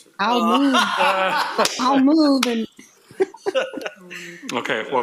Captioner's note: laughter